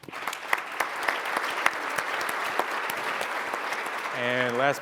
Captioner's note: audience applauds